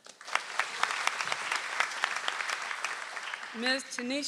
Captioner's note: audience applauds